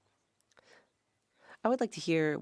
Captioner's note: speaking French